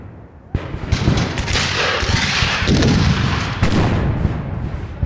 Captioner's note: guns fire